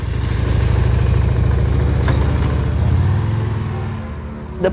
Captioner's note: sound of Motorcycle, ♫ ♫